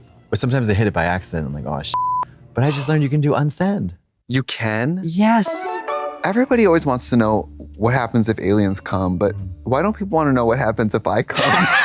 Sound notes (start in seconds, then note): 2.0 beep; 5.5 bright chime